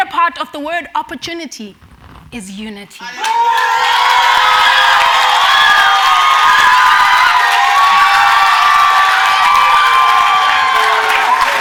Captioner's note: cheers and Applause